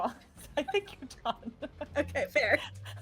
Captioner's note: laughing